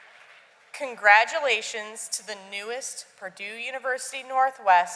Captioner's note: applause